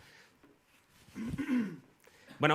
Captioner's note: coughs